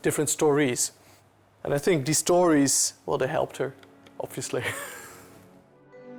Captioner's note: laughs